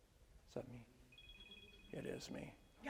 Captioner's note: cell phone ringing